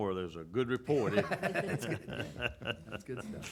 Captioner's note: laughs